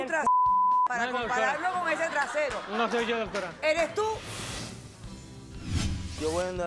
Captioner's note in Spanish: Bip; Risas